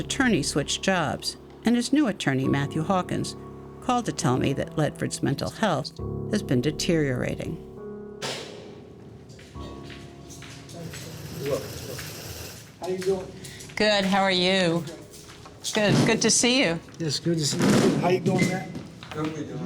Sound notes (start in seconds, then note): 8.4 lock clicks open